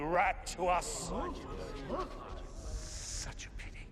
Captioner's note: murmuring